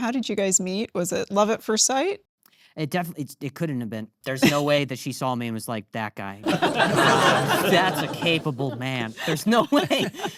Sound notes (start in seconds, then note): 6.4 audience laughing